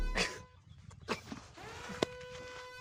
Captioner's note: radiation siren far away